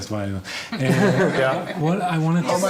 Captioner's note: laughing